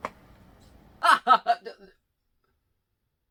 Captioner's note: maniacal laughter stops